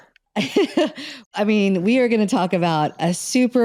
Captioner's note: laughs